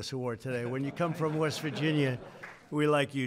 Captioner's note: laughter